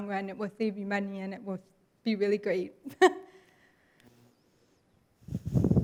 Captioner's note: laughs